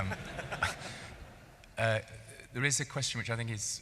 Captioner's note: laughing